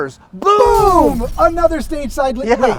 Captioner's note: glass shattering